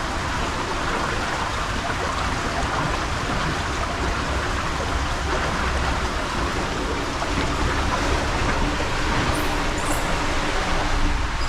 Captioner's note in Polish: odgłos wody